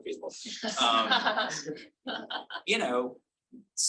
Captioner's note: audience laughing